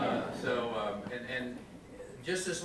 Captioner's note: audience laughs